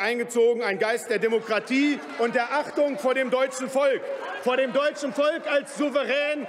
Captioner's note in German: Lachen bei Abgeordneten der SPD, der LINKEN und des BÜNDNISSES 90/DIE GRÜNEN